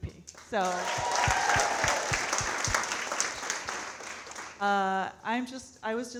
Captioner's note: audience cheering and clapping